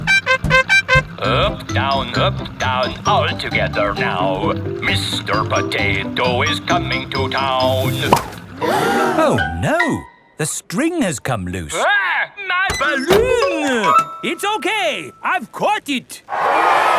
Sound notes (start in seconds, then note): 0.0 horn beeping; 8.5 all gasp